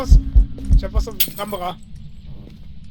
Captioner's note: glass shatters